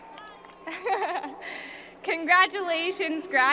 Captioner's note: chuckles